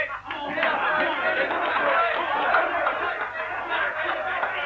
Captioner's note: cheering